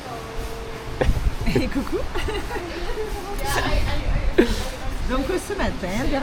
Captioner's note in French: rires